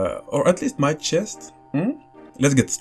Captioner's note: laughs